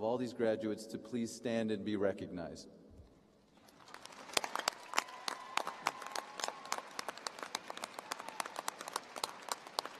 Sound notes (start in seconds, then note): 5.6 applause